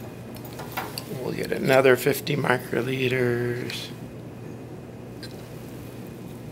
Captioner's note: clinks